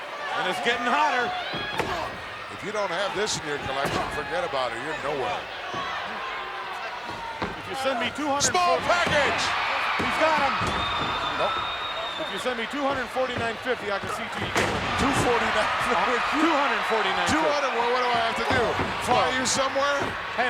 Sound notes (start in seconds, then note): 16.3 laugh